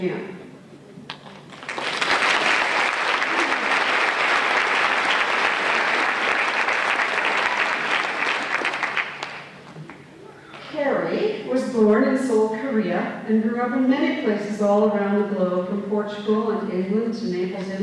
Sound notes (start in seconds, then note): 1.1 applause